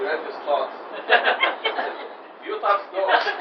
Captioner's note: laughter